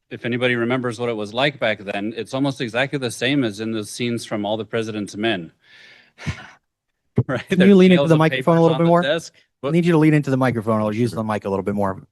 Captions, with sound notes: If anybody remembers what it was like back then, it's almost exactly the same as in the scenes from "All the President's Men." -[laughs] Right? -Can you lean into the microphone a little -bit more? -Piles of papers on the desk. We'll need you to lean into the microphone or use the mic a little bit more.